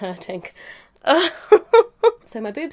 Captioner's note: laughs loudly